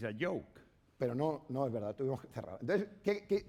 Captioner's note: speaking spanish